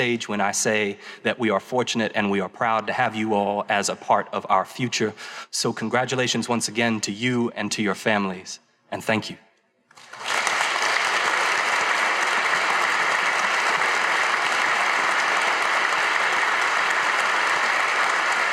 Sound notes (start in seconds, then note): 9.9 audience applauding